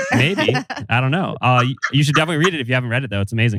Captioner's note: laughs